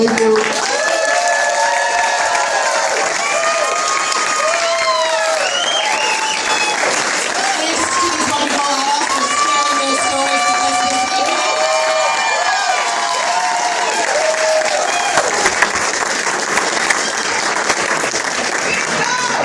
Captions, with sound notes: [cheering and clapping] Thanks to these wonderful adults for sharing their stories to all these people. [cheering and clapping]